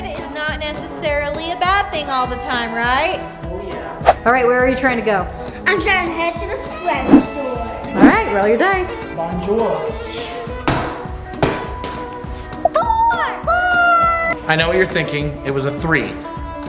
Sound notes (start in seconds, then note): 11.0 giant cube hits floor